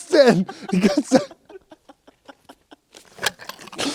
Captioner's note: Lachen